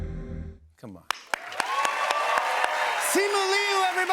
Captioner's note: cheers and applause